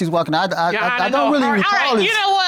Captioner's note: stutters